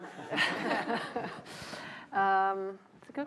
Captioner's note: laughter